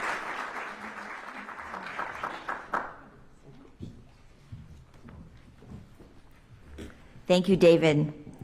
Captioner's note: applause